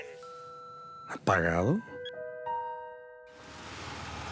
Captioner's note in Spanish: Bip